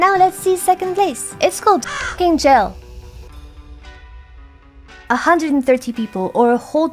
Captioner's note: caw